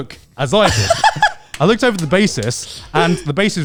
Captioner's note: laughing, clapping